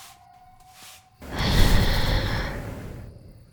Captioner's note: loud swooshing, wings flapping, eerie breath